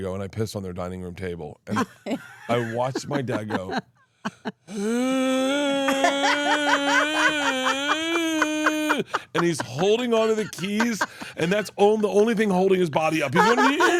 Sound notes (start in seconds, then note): 4.7 groans; 5.4 laugh